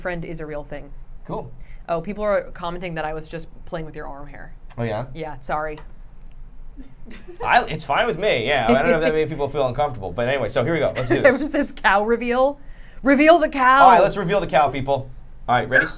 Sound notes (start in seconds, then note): 8.6 laughing